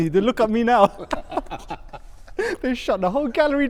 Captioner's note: laughter